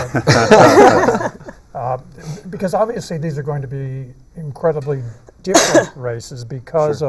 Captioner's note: laughter